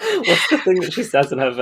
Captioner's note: laughs